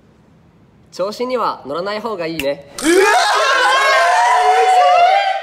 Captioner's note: snapping finger hearts